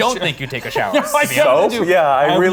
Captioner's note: laughs